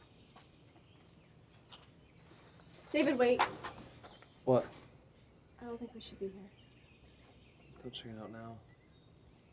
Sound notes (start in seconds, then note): 1.7 birds chirping